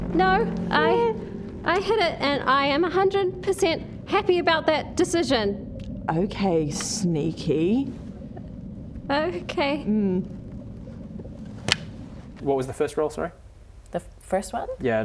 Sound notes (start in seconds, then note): 11.6 clap